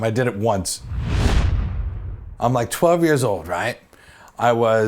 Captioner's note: swoosh